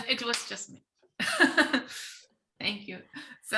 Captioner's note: laughing